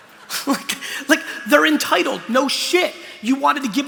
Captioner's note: laughter; laughs